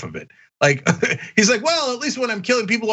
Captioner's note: laugh